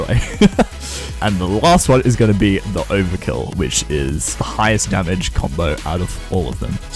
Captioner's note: laughs